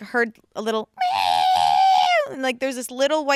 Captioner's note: imitates cat meowing